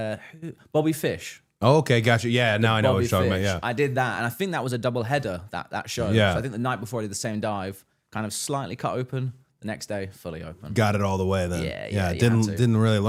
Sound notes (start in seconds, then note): none